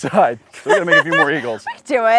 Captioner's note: laughs